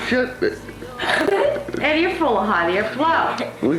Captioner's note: laughter